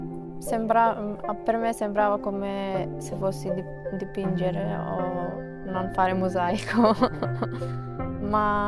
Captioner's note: laughs